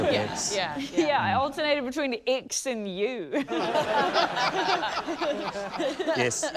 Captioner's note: laughter